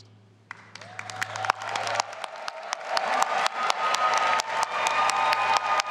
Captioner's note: audience applauding and cheering